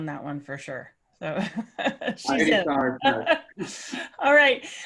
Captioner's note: laugh